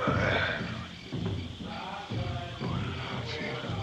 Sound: murmuring

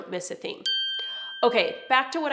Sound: bell dings

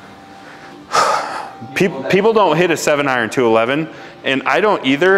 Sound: exhales

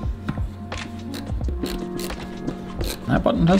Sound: screwdriver clicks

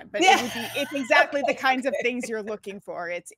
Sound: laughs

